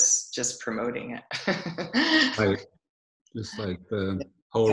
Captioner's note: laughs